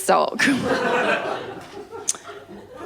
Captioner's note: laughter